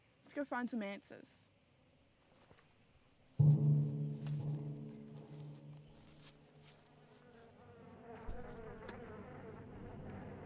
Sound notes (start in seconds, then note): 3.3 flies buzzing; 3.4 eerie music